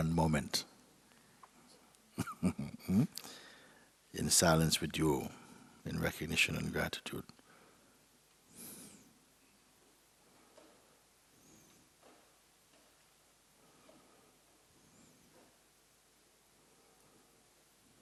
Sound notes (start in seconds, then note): 2.1 laughs